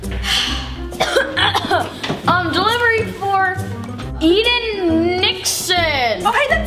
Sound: quirky music; sighs; coughs

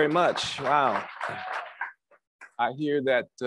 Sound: crowd applauds

